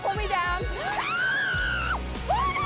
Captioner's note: screams